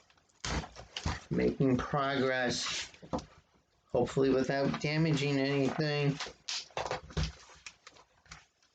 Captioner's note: ripping of packaging tape; ripping of packaging tape